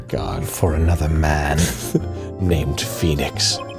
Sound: laughing

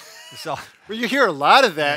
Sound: chuckles

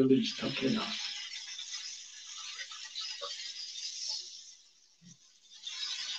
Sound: speaks Japanese

